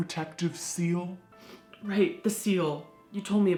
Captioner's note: sniffs